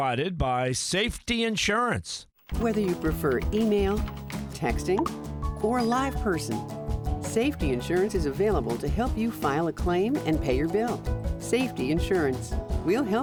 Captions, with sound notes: is provided by Safety Insurance. >> Whether you prefer email, texting... (cellphone chirps) (cellphone rings) ...or a live person, Safety Insurance is available to help you file a claim and pay your bill.